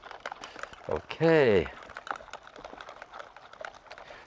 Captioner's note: handle clattering